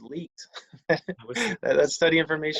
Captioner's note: laughing